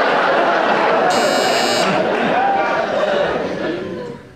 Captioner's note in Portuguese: campainha